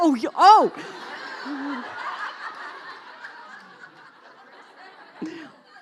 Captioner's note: laughing